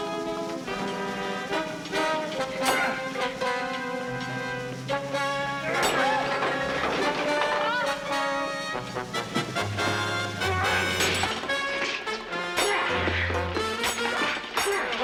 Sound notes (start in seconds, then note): 2.5 clanking; 2.5 groans; 6.7 tense music; 9.6 clanking; 10.6 groans